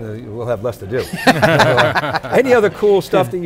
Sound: laughing

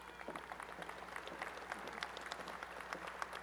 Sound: applause

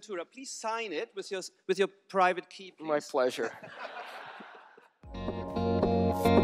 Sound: laughter

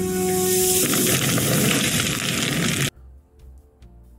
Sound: phoenix bursting into flames

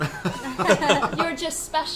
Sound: all laugh

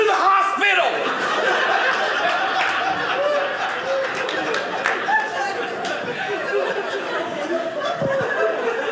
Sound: audience laughing

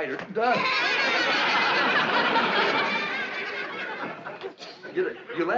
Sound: laughing

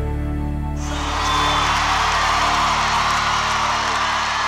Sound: audience cheering

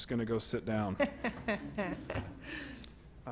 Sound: laughter

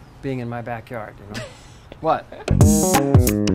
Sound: laughs; upbeat music

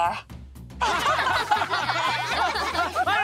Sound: laughing

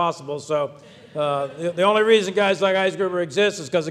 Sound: audience laughs

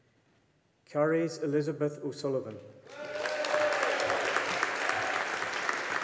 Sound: audience applauding

